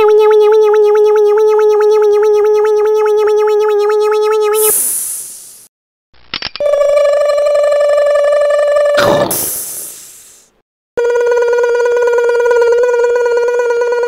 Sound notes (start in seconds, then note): 0.2 hydraulics sound; 6.5 hydraulics sound; 11.1 hydraulics sound